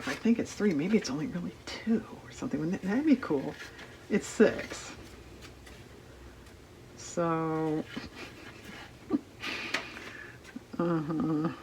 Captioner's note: laughs